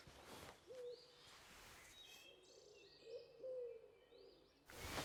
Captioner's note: birds chirping